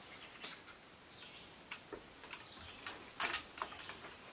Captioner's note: birds chirping